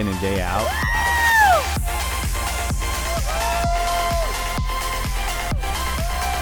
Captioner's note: bouncy music; crowd cheering